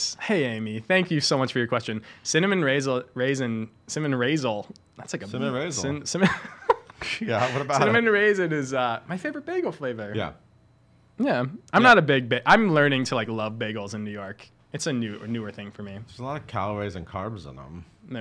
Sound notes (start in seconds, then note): 6.2 laughing